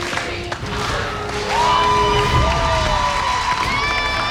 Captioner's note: crowd cheering